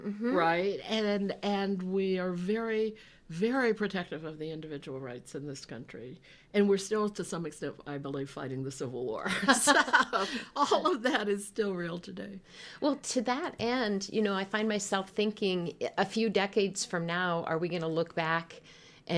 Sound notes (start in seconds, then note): 9.6 laughing